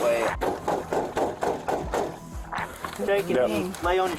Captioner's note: banging